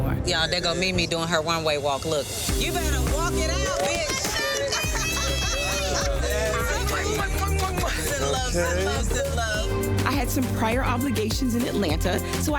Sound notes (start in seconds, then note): 4.1 woman laughing; 5.7 group cheering